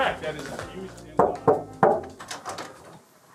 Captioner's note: knocking